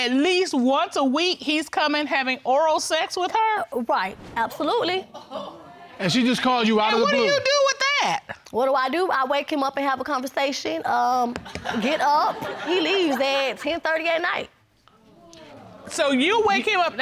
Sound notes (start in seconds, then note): 5.4 audience gasps; 14.9 audience gasping